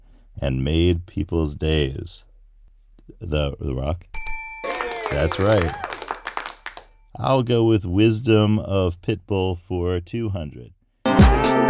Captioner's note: bell